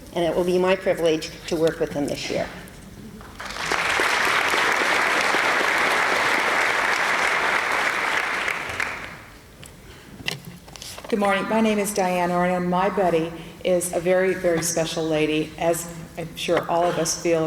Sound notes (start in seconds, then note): 3.2 applause